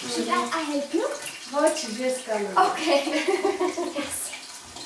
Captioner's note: speaking Armenian